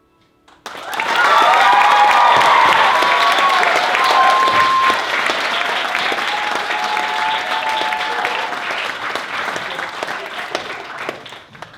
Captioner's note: applause